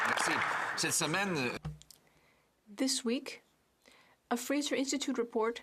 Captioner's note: speaking French